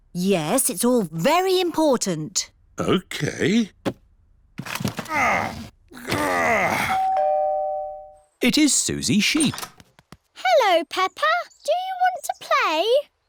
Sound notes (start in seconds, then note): 5.0 groans; 6.9 doorbell rings